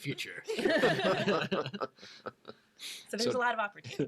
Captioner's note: all laugh